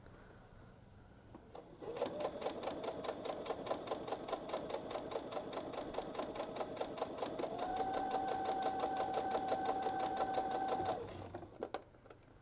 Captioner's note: sewing